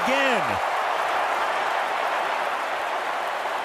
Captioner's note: crowd cheering